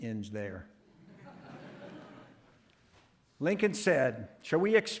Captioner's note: audience laughting